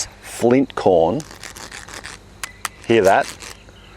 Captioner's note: two cobs rubbing